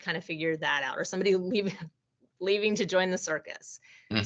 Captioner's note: chuckling